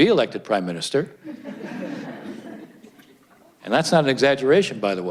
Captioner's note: audience laughs